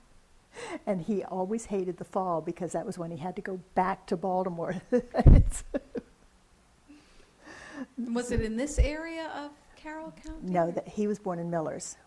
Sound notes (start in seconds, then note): 5.0 laughs